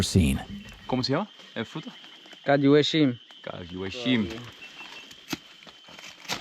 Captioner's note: speaking in foreign language